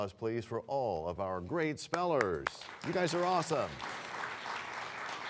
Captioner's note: applause